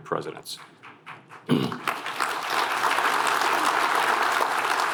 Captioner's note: applause